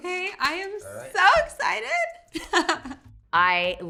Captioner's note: laughs